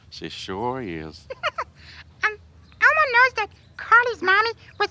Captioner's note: laughs